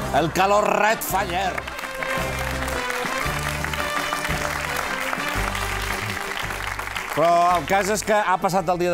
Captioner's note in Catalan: aplaudiments